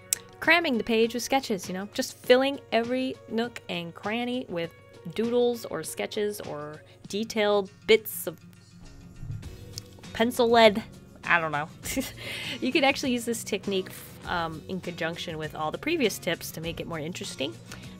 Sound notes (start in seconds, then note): 11.8 laughter